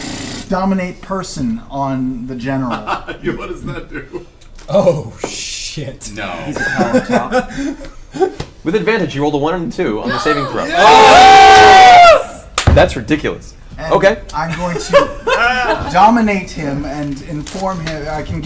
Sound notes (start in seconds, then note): 2.7 laughs; 10.0 all cheer